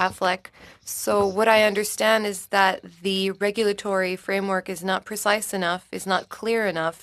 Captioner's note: speaking French